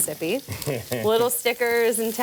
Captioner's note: man laughs